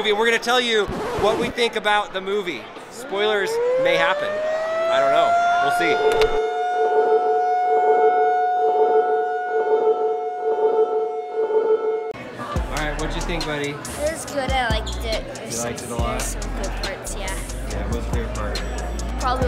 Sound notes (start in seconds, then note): 6.4 countdown chimes; 6.4 siren blaring